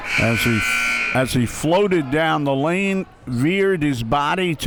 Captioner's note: buzzer sounding